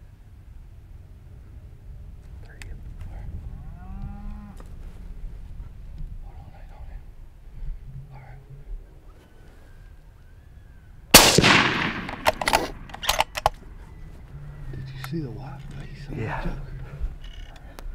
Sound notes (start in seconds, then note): 3.6 cow moos; 11.1 gun roars